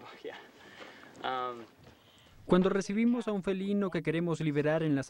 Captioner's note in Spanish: murmullos